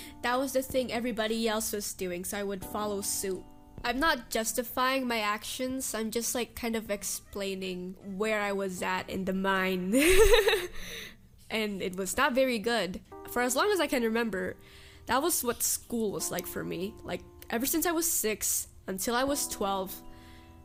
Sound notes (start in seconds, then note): 10.0 laughs